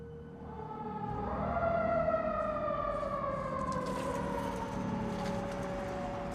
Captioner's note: sirens blaring